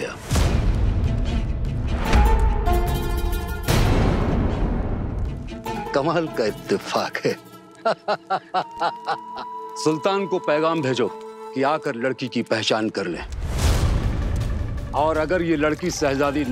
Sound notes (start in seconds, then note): 0.3 dramatic music playing; 7.8 laughter